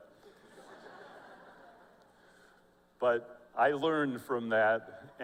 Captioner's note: laughter